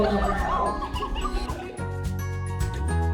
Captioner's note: laughter